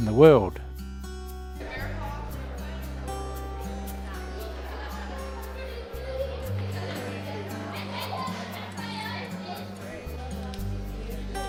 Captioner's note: crowd sounds, background music